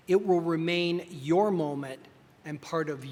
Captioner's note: none